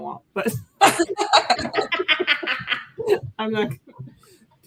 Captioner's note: laughter